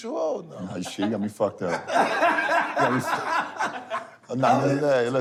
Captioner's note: laughter